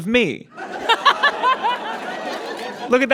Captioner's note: audience laughs; blurts laugh